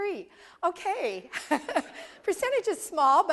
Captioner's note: laugh